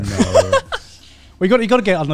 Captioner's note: laughs